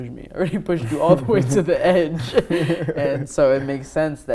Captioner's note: laughs